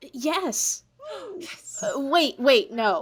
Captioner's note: parents cheer